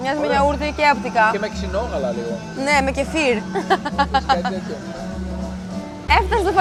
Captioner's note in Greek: γέλια